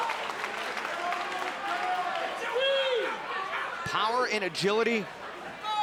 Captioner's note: crowd chatter